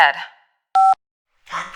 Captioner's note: beep